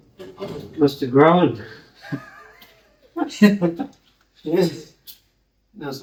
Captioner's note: laughing